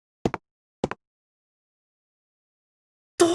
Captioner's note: silence